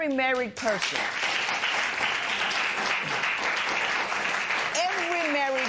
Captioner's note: applause